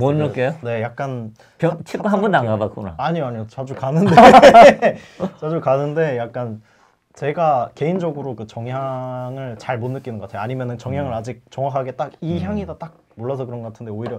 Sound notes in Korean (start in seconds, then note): 4.0 웃음